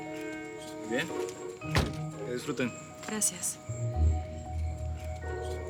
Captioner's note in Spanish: Portazo